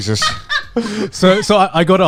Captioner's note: laughs